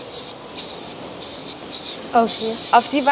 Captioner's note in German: Zischlaute